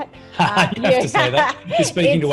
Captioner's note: laughs